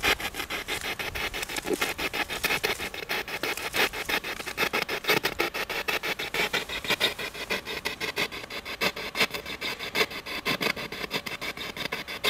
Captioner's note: radio noise from the spirit box